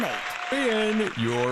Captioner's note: applause